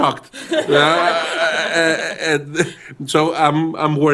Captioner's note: laughter